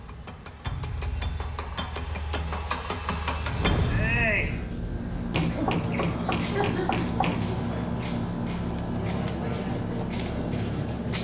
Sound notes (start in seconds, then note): 5.2 knocking